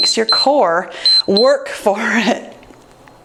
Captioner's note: timer beeps